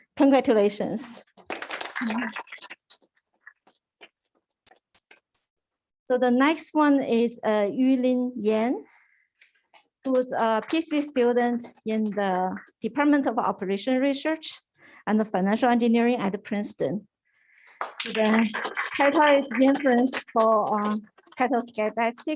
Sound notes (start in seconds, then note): 17.7 applause